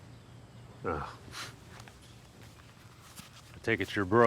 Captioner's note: scoffs